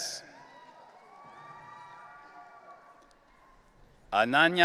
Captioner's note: audience cheering